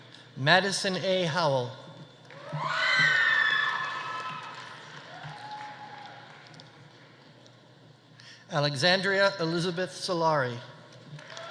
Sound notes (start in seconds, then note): 2.4 audience cheering; 3.0 audience applauding